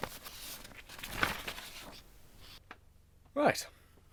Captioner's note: typing on computer, Paper rustling, Drawers opening and closing; huffs/Deep Breath